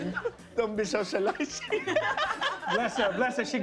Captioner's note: laughter